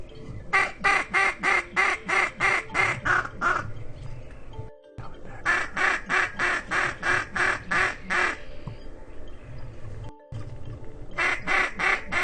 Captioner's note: ducks honking